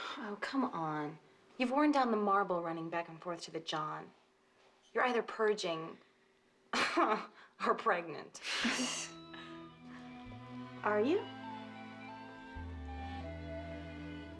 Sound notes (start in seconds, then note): 8.6 laughing; 10.3 chucklgin